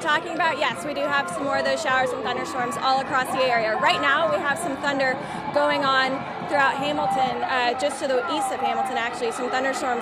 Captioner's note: cheers